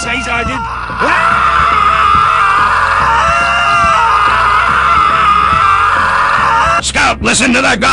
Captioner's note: both screaming